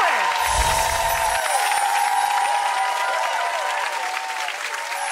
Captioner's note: audience applauds and cheers